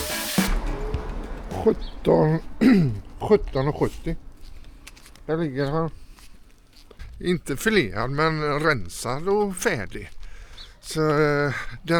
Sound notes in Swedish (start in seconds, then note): 2.4 harklar sig